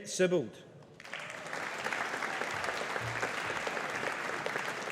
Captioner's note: audience applauding